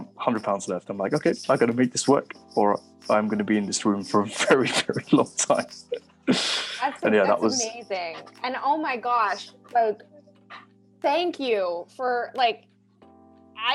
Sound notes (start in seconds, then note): 6.2 laughing